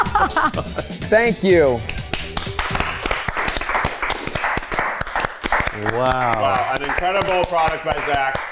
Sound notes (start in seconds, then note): 1.5 everyone clapping